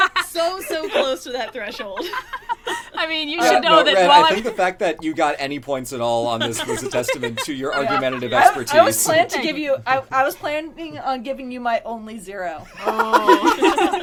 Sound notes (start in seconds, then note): 6.3 laughter; 12.7 laughs